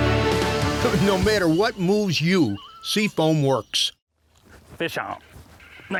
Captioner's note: voiceover